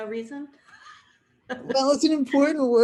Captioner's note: chuckling